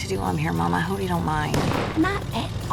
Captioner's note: car backfires